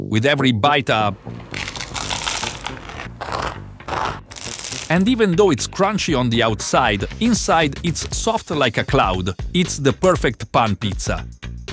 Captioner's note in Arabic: صوت قرمشة